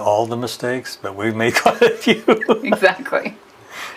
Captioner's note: laughs